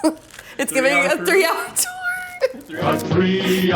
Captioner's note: laughs